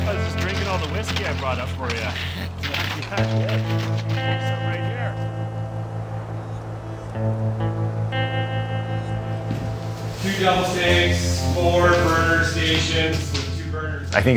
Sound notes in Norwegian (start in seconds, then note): 3.3 utydelig prating